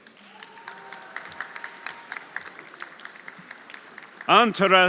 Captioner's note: audience applauding; audience cheering